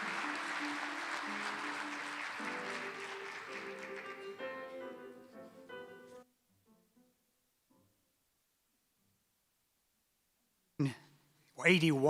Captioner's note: applause